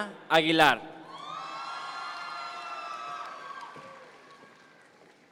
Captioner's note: audience members cheer